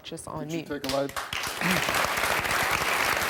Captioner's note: applause